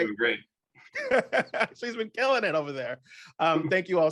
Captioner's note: laughs